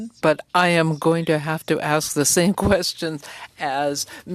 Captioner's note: speaking French